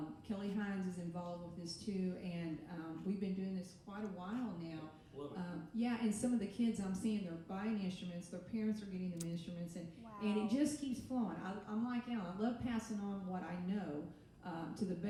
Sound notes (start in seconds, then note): none